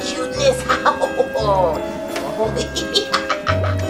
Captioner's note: laughs evilly